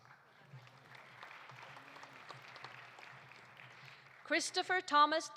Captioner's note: audience applauding